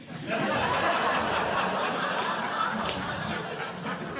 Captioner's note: audience Laughing